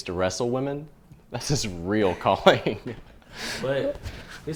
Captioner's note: laughs